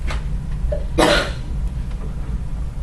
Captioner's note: cough from the audience